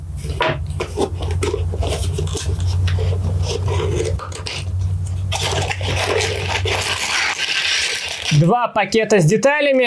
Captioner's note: cardboard rustling; plastic bags crackling